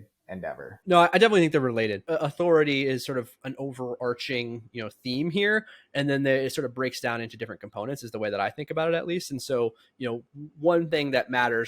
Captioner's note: speaking